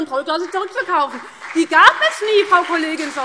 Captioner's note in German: Beifall CDU und BÜNDNIS 90/DIE GRÜNEN